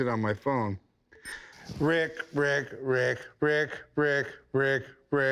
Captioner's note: beeps